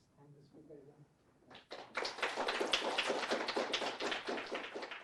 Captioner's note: applause